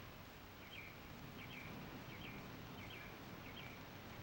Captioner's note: birds chirping